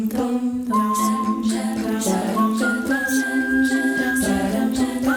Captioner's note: melodic whistling